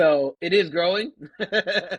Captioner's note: laughter